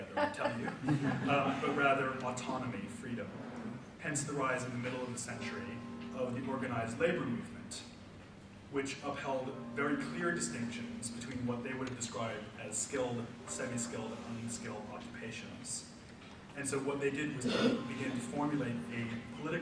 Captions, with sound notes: together will tell you, (audience laughs) But rather autonomy, freedom. Hence the rise in the middle of the century of the organized labor movement, which upheld very clear distinctions between what they would describe as skilled, semi-skilled, and unskilled occupations. And so what they did was begin to formulate a political